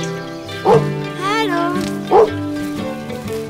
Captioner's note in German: Freudiges Bellen